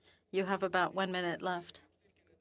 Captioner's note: speaking French